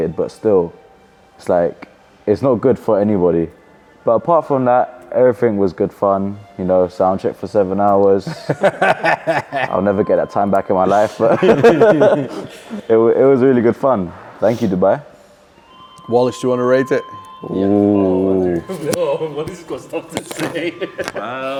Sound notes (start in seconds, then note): 8.2 laughs; 10.9 everyone laughing; 19.7 laughs